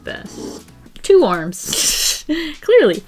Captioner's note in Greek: Γέλια